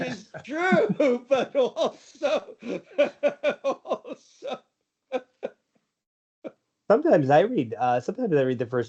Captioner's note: laughs